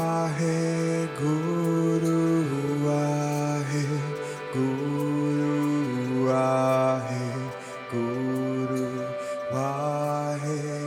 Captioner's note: chanting begins to fade out